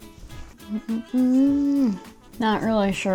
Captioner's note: slurps; hums